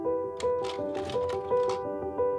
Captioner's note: projector clicks